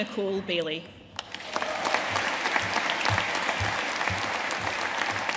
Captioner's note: audience applauding